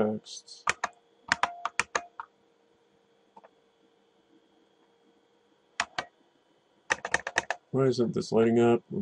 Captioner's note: typing